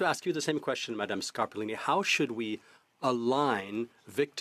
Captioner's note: speaking French